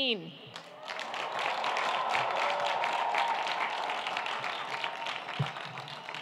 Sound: audience applauding and cheering

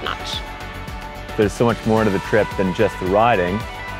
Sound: male Voice

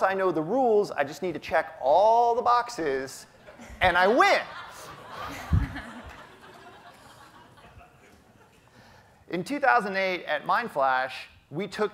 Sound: audience laughter

